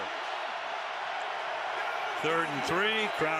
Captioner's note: cheering